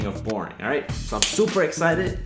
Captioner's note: claps hands